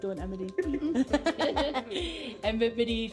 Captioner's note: laughing